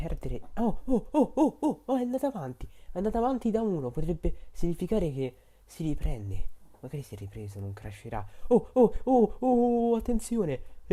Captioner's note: monkey sounds